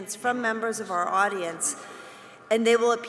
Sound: none

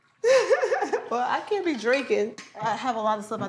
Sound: laughs

